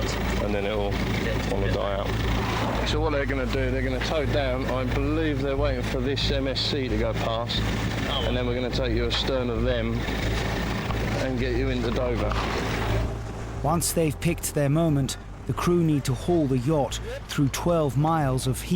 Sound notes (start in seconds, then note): 12.2 wind swooshing